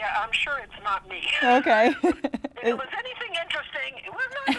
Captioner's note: laughs